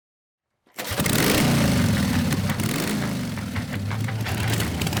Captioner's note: motorcycle engine